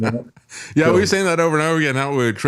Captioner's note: laughing